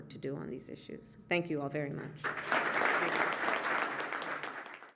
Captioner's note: applause